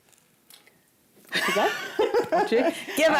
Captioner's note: laughter